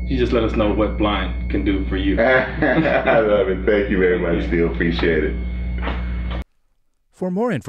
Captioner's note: laughter